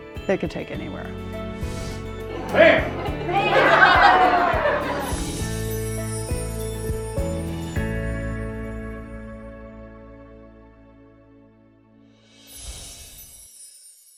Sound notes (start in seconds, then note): 2.2 group laughing